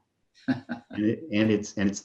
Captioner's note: laugh